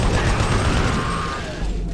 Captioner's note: gun firing; suspenseful music